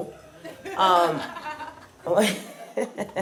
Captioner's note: audience laughs; chuckles